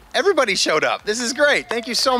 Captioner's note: cheering